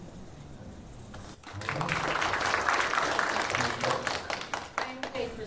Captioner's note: applause